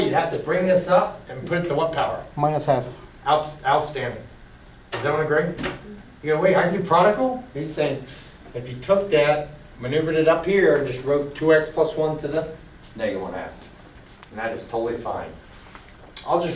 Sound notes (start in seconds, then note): 2.6 voiceover; 13.2 voiceover